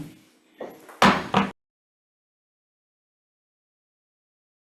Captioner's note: gavel thuds